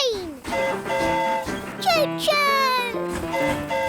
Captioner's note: train horn hooting